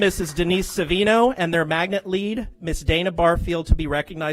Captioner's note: applause